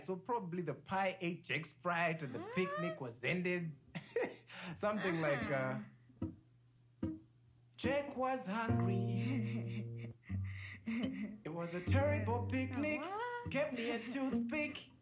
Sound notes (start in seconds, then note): 3.9 chuckles; 7.0 guitar playing; 9.0 laughs